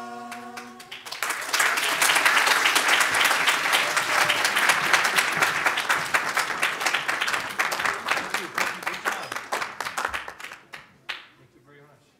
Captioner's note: audience claps as choir exits stage